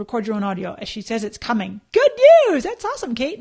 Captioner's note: none